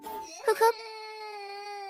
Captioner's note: sobbing